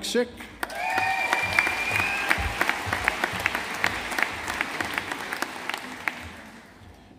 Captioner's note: audience applauding